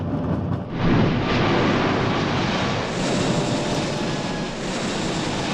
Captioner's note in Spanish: motores de avión rugiendo